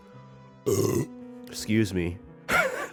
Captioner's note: burp